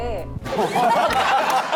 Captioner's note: laughing